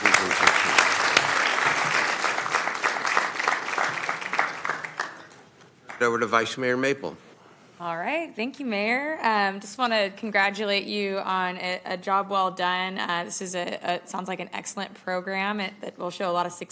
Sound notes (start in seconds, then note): 5.0 applause